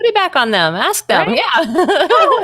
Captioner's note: laughs